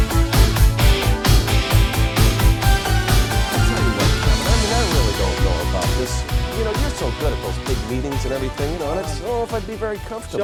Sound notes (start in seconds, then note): none